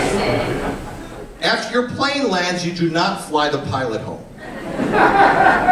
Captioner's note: laughter